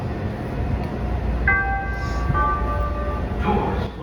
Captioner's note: door chime